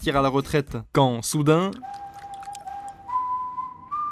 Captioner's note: whistle of the wolf